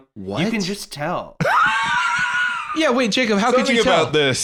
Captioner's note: laughs